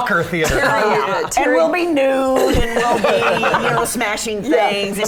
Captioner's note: laughter; laughter